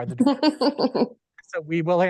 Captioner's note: laughing